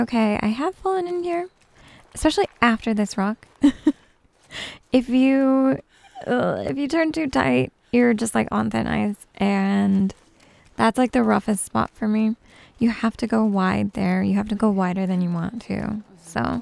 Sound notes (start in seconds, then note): 3.6 giggles